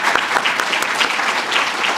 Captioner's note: applause